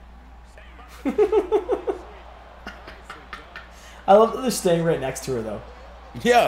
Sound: laugh

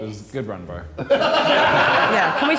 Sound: Sidemen laughing

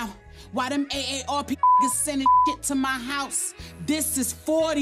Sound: beep

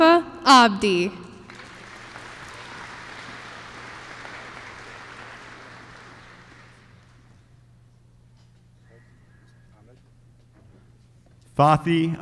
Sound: applause

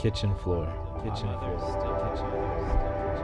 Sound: echoing

